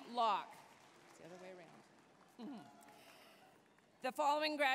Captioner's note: applause, cheering; chuckling